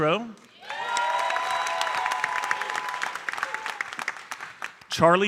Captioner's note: audience cheering and applauding